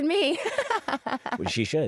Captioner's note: laughs